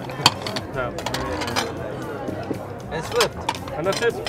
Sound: plates rattling

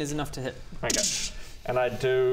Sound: ddddsssch

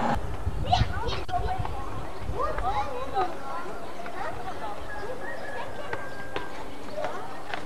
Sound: children playing in the backyard

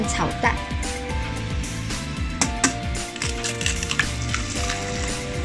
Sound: sound of beating eggs

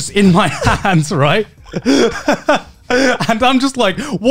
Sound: laughing

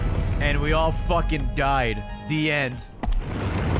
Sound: none

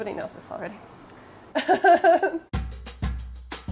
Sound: laughs; upbeat music

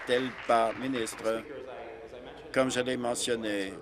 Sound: applause

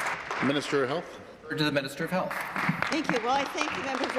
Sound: applause

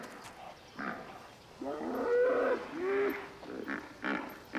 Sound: hippos grunting

